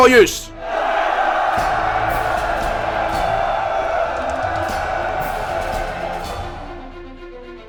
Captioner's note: cheer